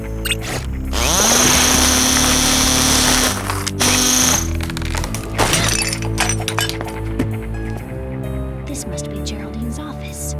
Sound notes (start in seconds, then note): 3.3 buzzing